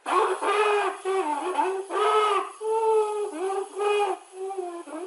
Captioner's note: high-pitched wheezing and blowing